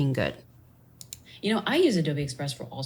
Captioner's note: computer mouse clicking